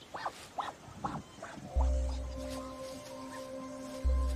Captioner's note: kiwi squawks